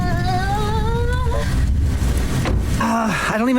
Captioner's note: whining